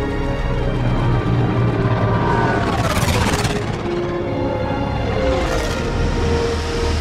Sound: wyoosh

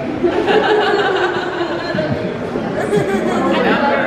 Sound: crowd murmuring

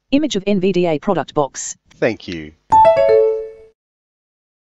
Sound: NVDA exit sound

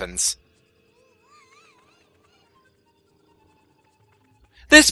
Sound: Pac-Man screams some more

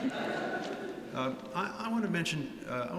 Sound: laughter

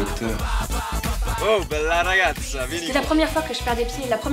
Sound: Paolo in italian

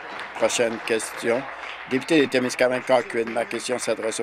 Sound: applause

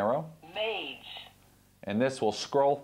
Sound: computer voice

